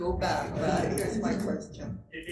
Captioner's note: attendees chuckling